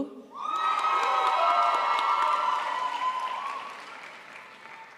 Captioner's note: crowd applauds